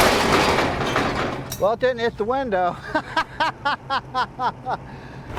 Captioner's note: laughs